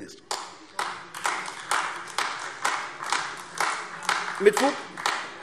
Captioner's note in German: Beifall AfD